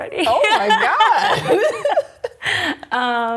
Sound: laughs

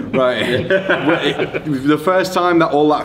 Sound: laughs

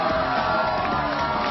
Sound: applause

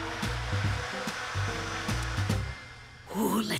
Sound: blender whirring

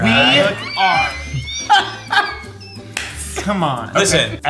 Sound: all laughing

